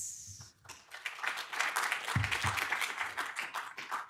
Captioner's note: audience claps